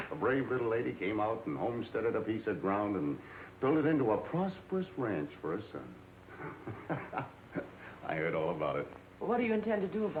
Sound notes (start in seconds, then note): 6.3 laughs